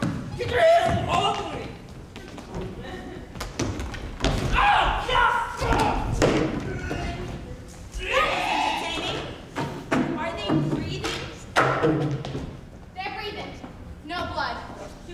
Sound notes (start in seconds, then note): 0.0 group chattering; 6.6 vomiting loudly